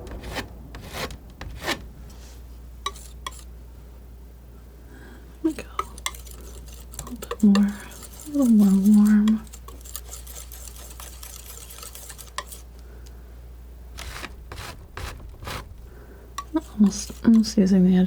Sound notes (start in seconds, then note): 10.4 scratching